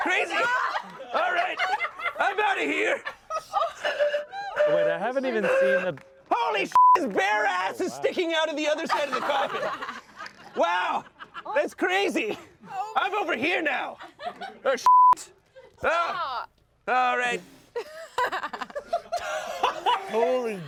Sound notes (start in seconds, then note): 3.9 blows on pan flute; 6.7 beep; 8.8 everyone laughs; 14.8 beep; 17.8 everyone laughs